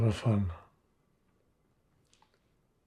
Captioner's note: pauses 4 seconds